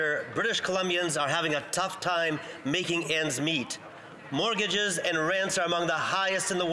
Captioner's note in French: voix de l'interprète